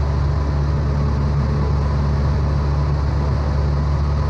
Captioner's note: engine humming